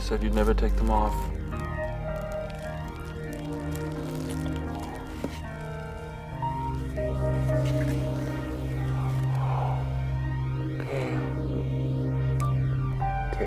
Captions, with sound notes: You said you'd never take them off. (rustling) (exhaling) Oh, Gail, Gail.